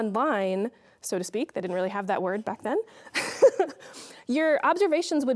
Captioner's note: laughing